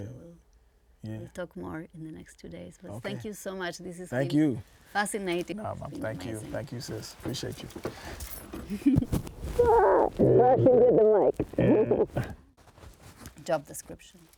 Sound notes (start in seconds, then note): 9.6 laughing; 10.1 muffled Speaking